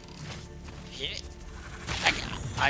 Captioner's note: jumping sound